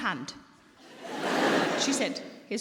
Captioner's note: audience laughing